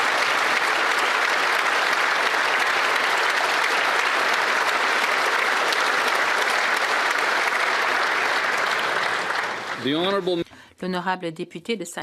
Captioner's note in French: applaudissements